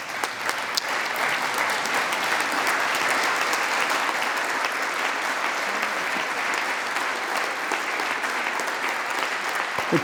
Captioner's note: applause